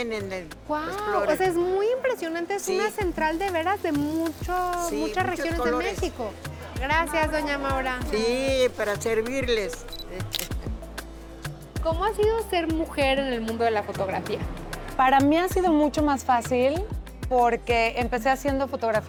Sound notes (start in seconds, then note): 1.2 speaking Spanish; 10.0 camera shutter clicks